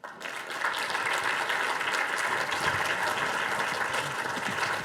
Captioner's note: audience applauding